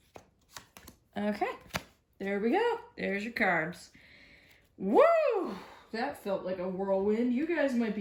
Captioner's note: sigh of relief